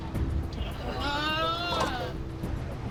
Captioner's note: victim moans